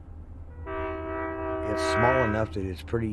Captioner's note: train horn